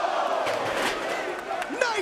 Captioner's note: chair clunks; metal clanking